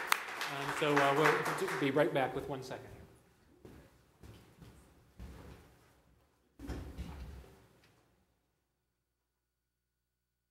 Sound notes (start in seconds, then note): 3.6 applause